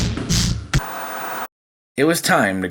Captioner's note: upbeat percussion music; white noise scratching